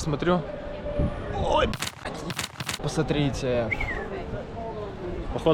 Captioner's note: sounds of delight